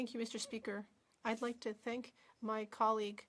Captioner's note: speaking French